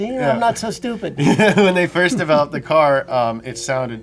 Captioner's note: laughs